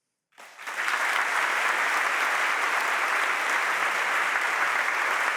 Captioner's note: audience applauding